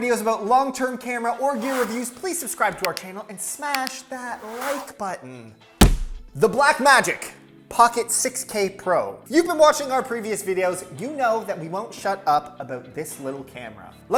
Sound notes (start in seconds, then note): 5.8 fist punches